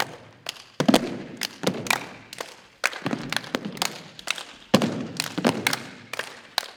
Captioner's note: rhythmic thumping and clapping continues